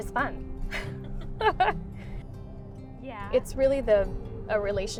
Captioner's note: laughs